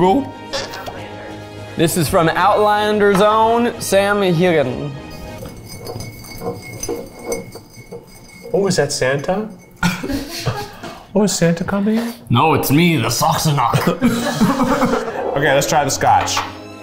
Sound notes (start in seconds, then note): 4.9 bottle clinking; 13.7 crew laughing